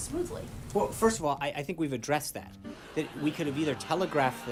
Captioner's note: raucous laugh track